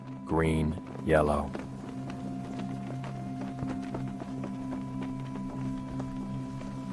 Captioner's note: gentle music; flags flapping